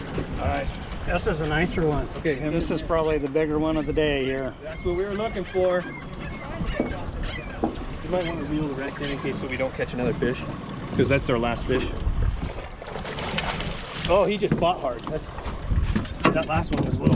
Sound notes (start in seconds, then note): 12.1 fish splashing